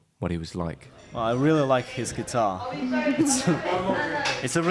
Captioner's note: laughs